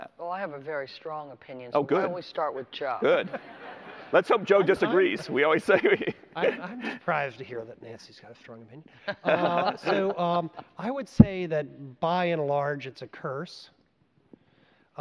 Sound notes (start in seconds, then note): 3.3 audience laughter; 9.0 laughter